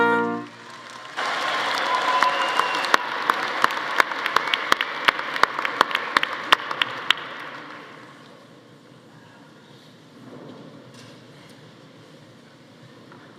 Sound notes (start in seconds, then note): 0.3 audience applauding; 0.4 audience cheering